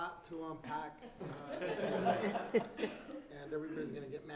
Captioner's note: laughing